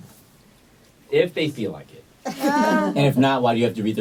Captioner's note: laughter